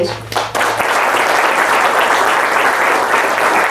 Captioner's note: audience claps